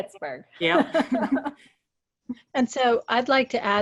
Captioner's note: laughing